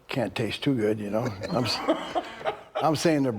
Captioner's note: Bron laughing